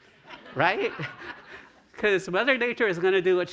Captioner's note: laughter